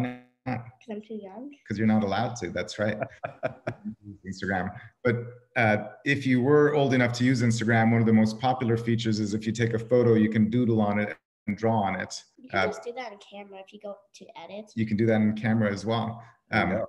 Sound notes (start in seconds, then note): 2.4 laughs